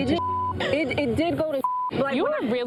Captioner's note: beep